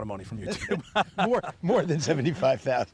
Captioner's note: laughter